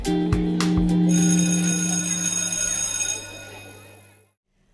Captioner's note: bell ringing